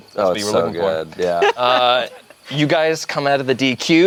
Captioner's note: group laughs